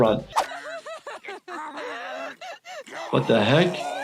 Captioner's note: woman crying